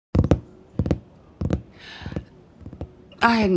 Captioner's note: thing tapping